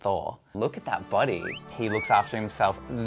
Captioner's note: cat calls